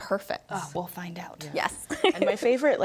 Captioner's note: laughs